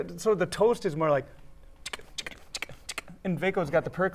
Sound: beatboxing

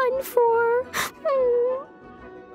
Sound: sobs

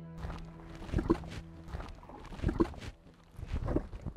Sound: muddy water gurgling

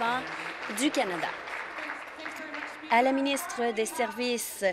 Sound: applause

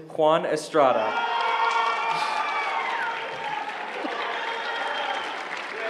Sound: applause

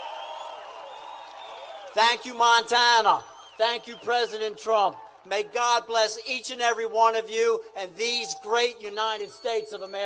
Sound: applae

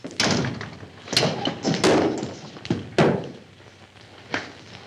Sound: loud thud

